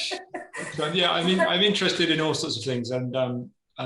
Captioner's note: laughter